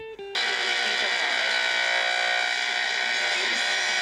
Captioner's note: radio buzzing